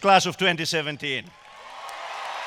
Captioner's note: cheers and applause